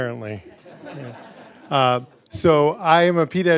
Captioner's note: laughter